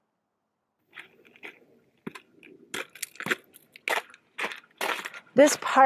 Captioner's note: walking Sounds